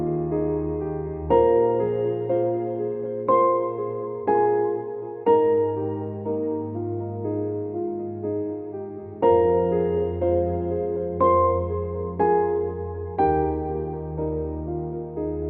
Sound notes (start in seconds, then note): none